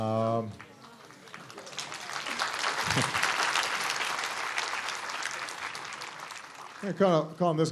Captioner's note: applause